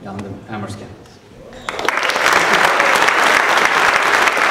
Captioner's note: applause